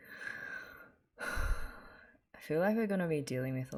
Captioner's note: sighs